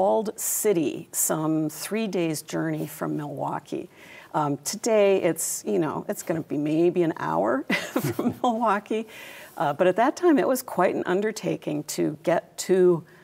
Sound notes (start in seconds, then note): 6.7 laughs